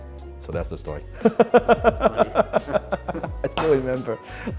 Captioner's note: laughs